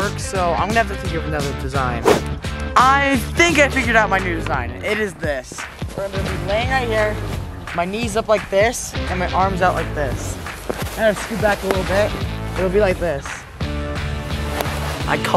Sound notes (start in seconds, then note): none